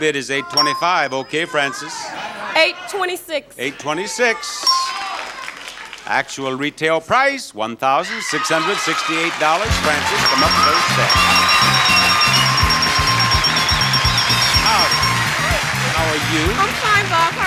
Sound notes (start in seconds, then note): 0.5 bell dings; 4.6 bell dings; 11.4 audience applauding; 11.4 upbeat music